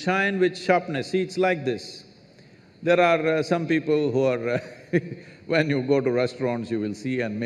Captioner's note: laughs